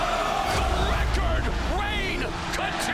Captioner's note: crowd cheering